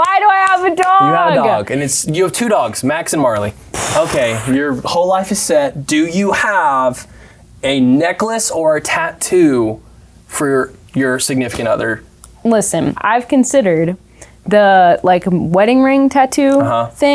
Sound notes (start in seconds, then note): 0.4 clapping; 3.7 blows raspberry